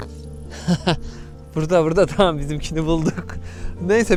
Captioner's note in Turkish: kahkaha